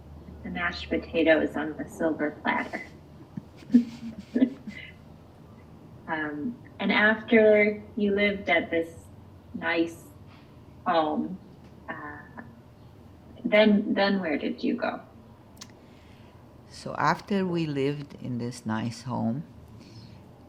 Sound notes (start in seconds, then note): 3.2 laughing